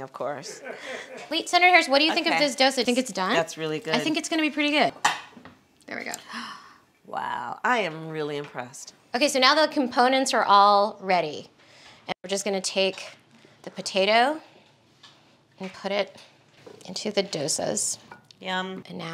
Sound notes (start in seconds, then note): 0.5 laughing; 6.2 gasps